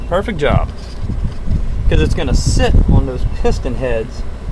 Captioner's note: engine stalls